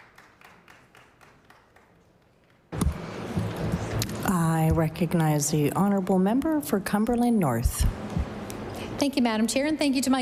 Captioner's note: applause